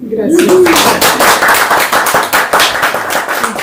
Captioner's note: applause